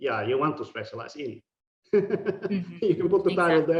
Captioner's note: laughing